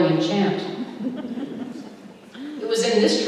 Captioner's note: laughter